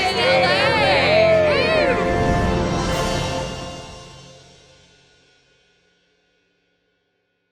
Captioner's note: group cheers